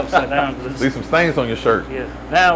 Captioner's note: laughs